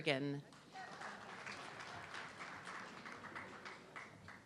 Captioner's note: audience clapping